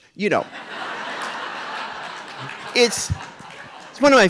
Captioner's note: audience laughing